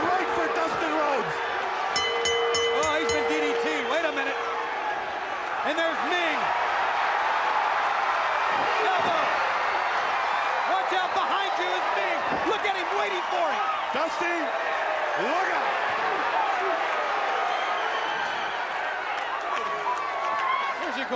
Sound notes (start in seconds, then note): 2.2 bell ringing; 6.7 crowd cheering; 15.5 crowd cheering